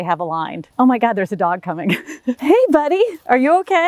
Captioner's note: laughs